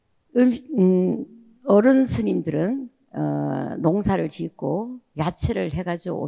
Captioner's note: speaking in foreign language